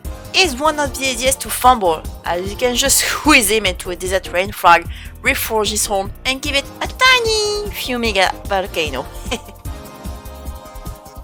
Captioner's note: tiny laugh